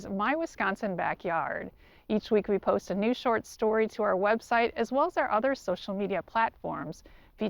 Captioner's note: none